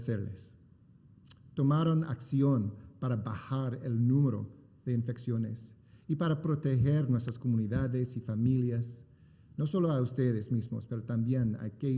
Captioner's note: remarks in spanish; speaking spanish